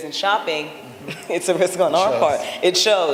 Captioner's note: laughter